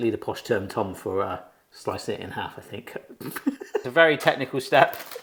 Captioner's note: chuckles